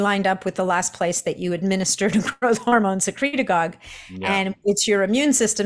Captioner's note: chuckles